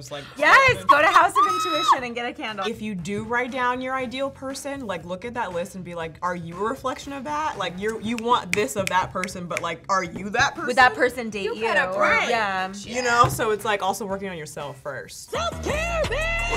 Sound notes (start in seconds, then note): 7.8 snaps fingers